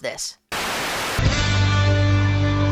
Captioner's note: static